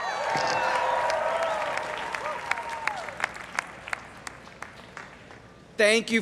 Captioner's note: everyone cheering and applauding